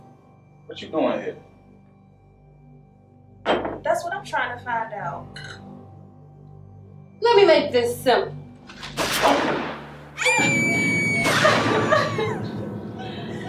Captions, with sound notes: - What you doing here? - That's what I'm trying to find out. - Let me make this simple. (gun firing) (Lisa screaming) (gun firing)